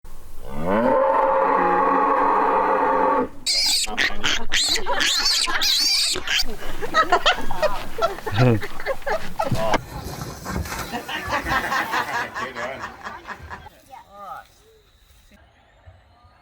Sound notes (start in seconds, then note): 0.4 cow mooing; 3.4 baby pig squeaking; 7.2 woman laughs; 11.3 people laughing; 11.3 water splashing